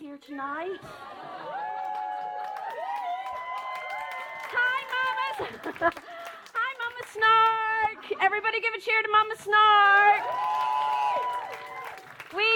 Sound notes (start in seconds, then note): 1.1 whoops and cheers